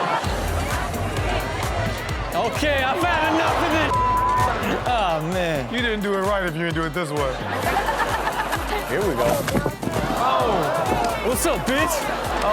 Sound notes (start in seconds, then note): 0.3 upbeat music; 8.0 Chanel and audience laughing